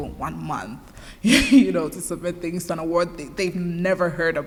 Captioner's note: chuckles